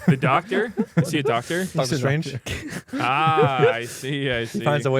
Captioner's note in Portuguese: risos